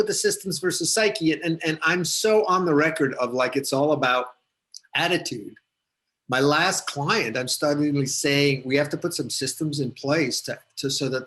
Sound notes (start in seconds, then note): none